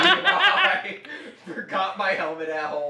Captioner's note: laughs